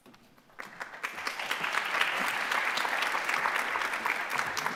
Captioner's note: audience clapping